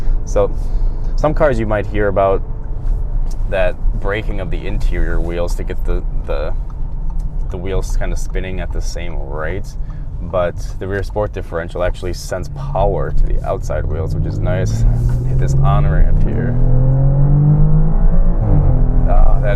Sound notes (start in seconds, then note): 15.4 engine revving